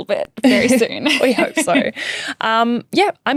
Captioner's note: laughing